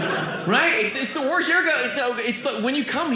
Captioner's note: audience laughing